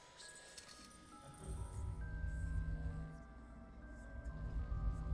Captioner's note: eerie whispering; soft dramatic music